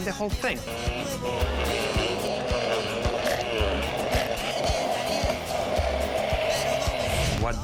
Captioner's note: blender whirring